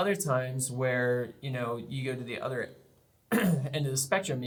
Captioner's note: clears throat